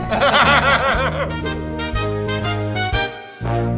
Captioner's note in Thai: เสียงหัวเราะ